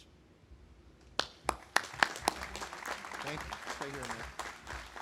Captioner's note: audience applauding